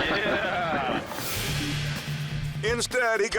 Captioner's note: transition whooshes